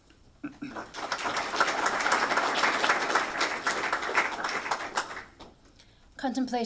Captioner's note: applause